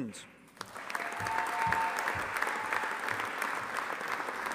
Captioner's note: audience applauding